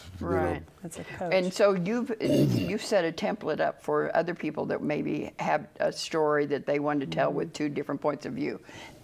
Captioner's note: sounds of agreement